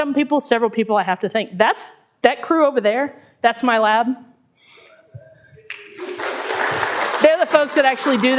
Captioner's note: clapping